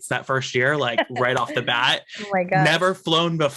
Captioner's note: laughs